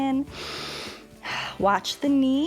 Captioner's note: inhales and exhales